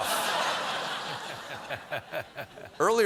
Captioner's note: laughter